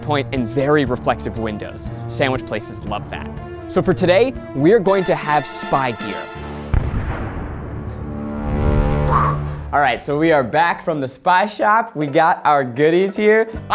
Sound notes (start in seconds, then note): 6.3 bomb explodes